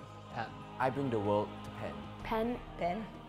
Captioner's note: man speaks foreign language